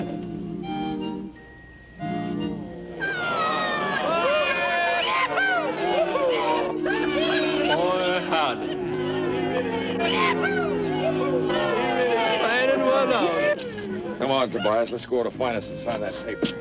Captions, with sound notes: Ha ha ha ha. Go ahead and kiss her! (crowd cheering) Yahoo!